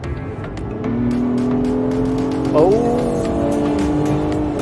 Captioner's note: engine roaring